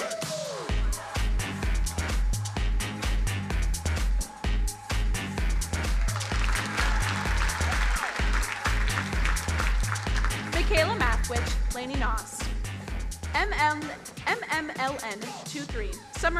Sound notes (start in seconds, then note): 2.4 upbeat music; 5.4 crowd applauding